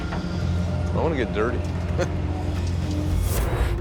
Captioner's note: chuckles